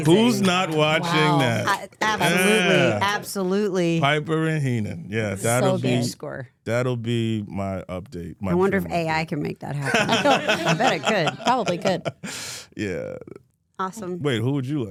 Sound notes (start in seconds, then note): 9.8 Michael laughs